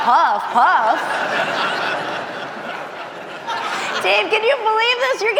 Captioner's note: audience laughing